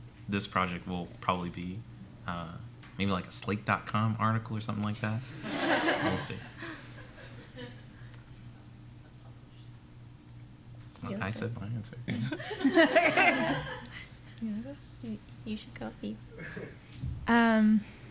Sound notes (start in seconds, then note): 5.4 laughter; 12.1 laughter